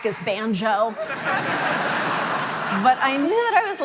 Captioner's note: audience laughing